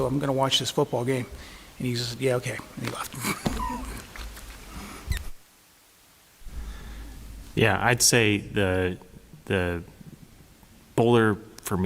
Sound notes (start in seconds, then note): 3.2 laughter